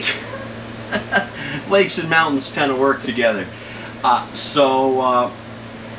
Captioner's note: laughs